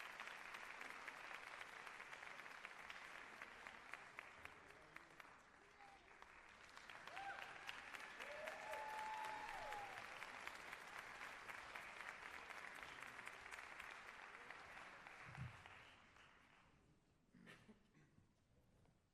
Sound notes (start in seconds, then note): 0.2 applause; 5.3 cheers and applause